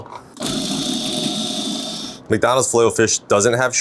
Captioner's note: food processor whirring